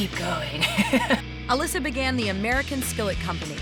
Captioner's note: giggling